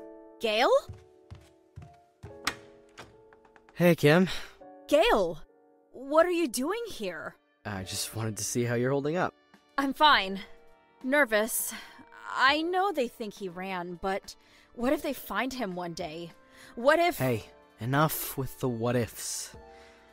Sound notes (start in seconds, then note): 3.2 footsteps; 4.2 door opens